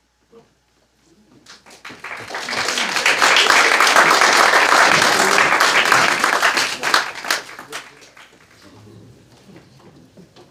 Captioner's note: applause